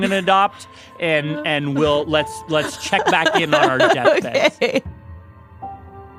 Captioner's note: laughs